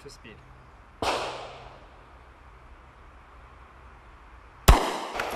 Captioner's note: gunshot crackling; gunshot crackling